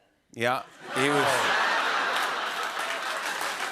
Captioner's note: laughter; cheers and applause